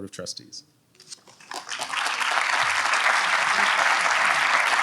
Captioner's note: audience applauds